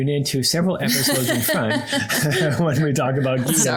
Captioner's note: laughs